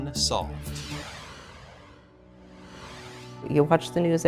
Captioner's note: graphic whooshing